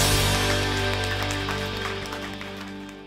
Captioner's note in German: Applaus